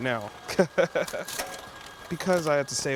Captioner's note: laughing